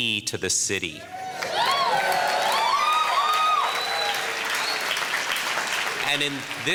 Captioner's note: audience cheering and applauding